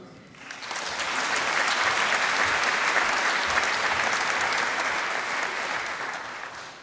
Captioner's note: applause